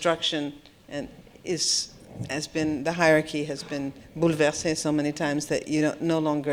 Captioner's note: french